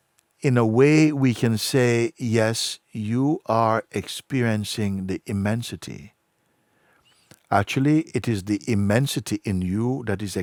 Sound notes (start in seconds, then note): none